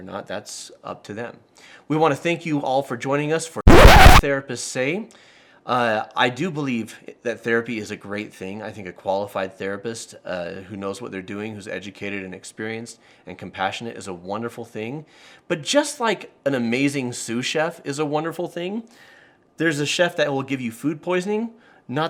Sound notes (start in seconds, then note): 3.6 record scratching